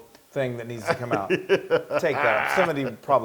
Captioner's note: laugh